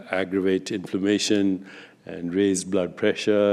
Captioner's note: none